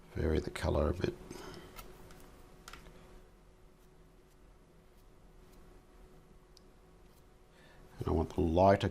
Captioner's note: silence